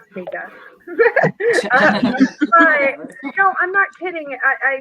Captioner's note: all laughing